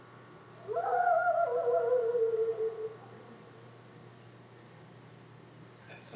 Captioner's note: very loud howl